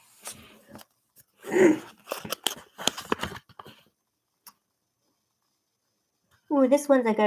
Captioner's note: clears throat